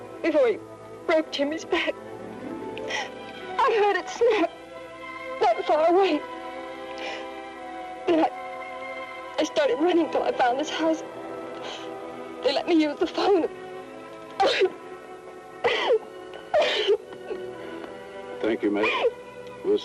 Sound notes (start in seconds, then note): 15.6 sobbing